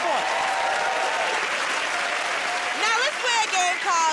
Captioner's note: cheers and applause